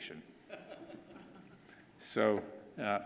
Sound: audience laughing

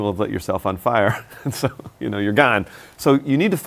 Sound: laughs

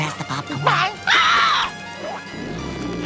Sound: screeching

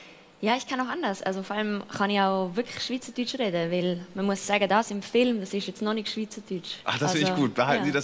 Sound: she switches instantly to Swiss German

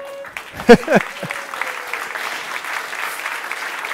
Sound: applause; laughter

